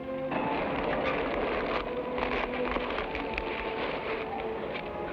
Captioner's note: fabric rustles